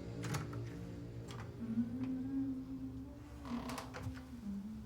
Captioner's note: astrid humming